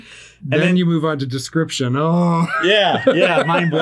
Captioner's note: chuckles